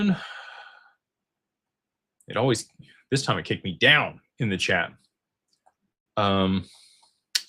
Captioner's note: sighs and gasps